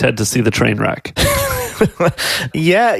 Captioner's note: laughing